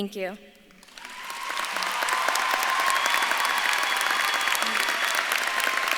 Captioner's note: audience claps and cheers